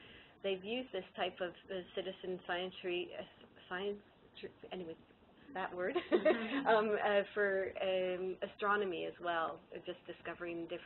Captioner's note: laughter